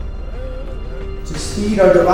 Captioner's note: mumbling in agreement